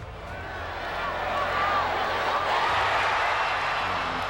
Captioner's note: crowd cheering